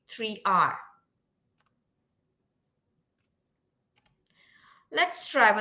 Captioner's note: silence